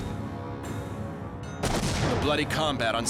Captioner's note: explosion